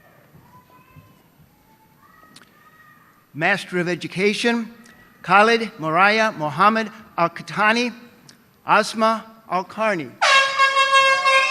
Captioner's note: loud horn honking